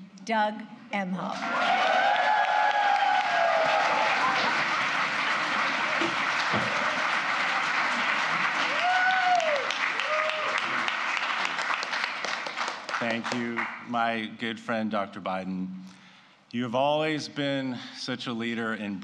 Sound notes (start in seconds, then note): 1.4 applause